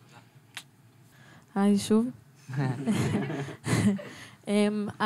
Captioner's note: laughs